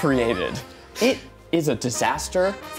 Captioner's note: laughing